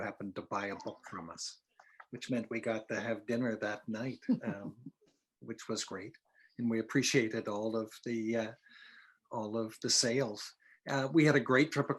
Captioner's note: laughter